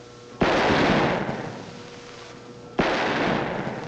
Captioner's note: machinery humming; gun firing